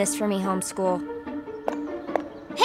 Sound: footsteps

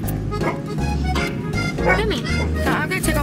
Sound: dog barks

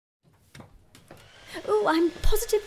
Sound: blow dryer whirring

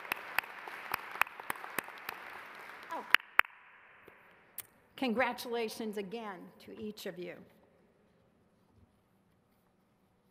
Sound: applause

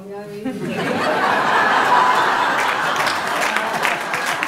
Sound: laughter

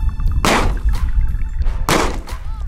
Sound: gun fires

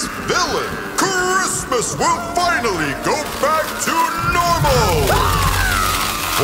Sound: shrieking continues; shrieking continues

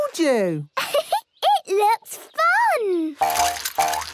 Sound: giggles

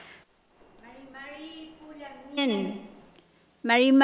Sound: speaking mapudungun

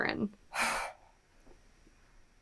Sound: sharp sigh

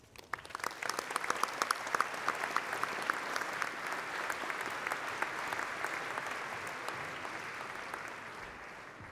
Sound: applause

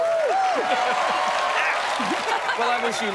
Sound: laughs; cheers and applause

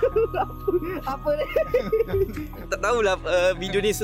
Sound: singing; laugh

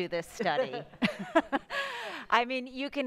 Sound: laughs

